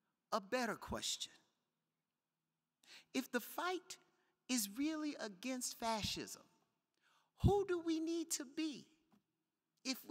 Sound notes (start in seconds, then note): none